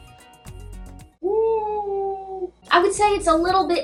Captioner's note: "wooo" sound